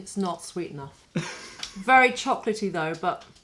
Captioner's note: laughter